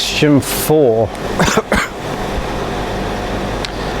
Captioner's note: coughing